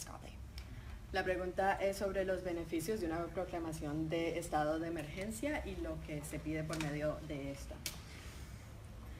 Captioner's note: speaking in Spanish